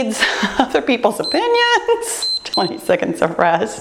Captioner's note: timer beeps